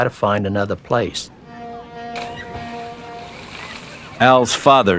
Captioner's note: boys Laughing